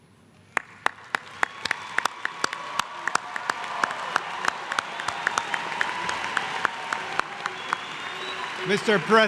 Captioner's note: applause